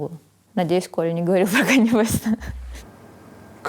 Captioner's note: laughs